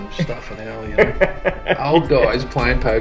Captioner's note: laughs